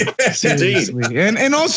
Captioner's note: laugh